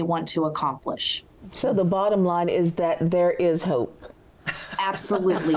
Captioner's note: laughs